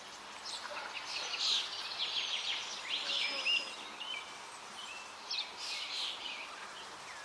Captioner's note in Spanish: sonidos de río, trino de pájaros